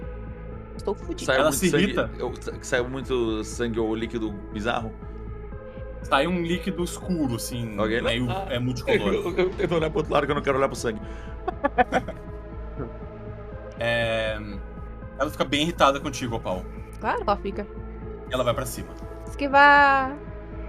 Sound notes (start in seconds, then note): 11.8 laughter